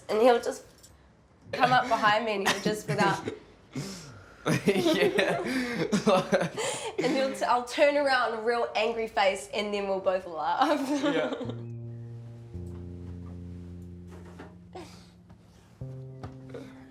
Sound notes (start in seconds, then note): 4.5 laughs; 4.5 giggles; 10.8 laughs